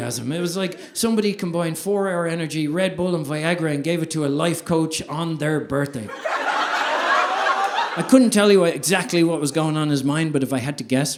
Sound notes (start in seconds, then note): 6.0 audience laughing